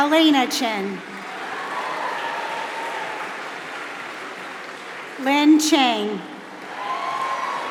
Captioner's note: applause